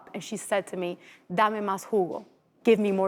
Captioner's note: speaking foreign language